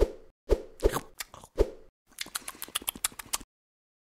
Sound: chewing

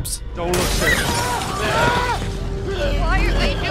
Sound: screaming

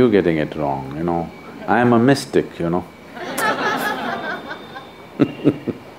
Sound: laughter

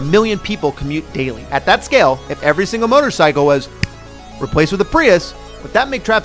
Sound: snap

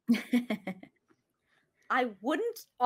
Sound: chuckles

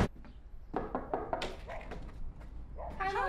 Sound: knocking

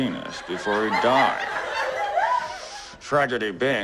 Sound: laughter and a whoop

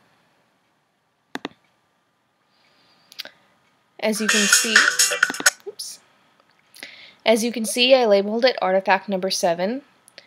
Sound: commercial starts playing

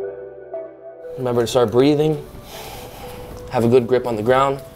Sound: inhales deeply

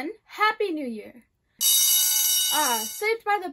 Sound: bell rings

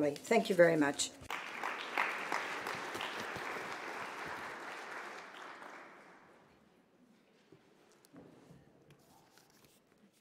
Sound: applause

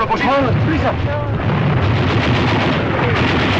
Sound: man Speaking Spanish

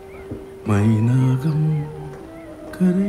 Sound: hums a song

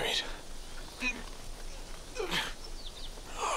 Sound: grunting

